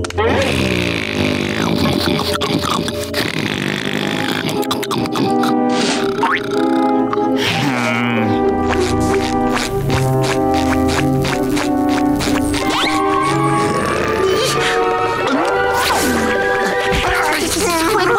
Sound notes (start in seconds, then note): 0.3 snoring; 7.0 sighing